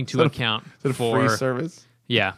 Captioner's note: laughter